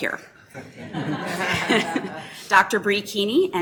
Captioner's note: laughing